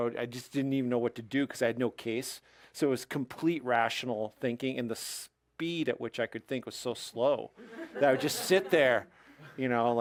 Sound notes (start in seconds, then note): 7.6 audience laughs